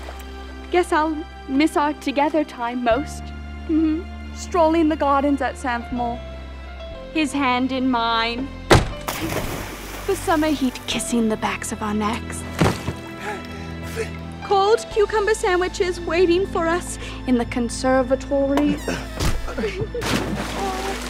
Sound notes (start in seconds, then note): 8.7 smack; 9.0 splash; 12.1 panting; 18.4 air escaping; 20.0 splash